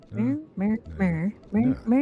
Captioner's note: humming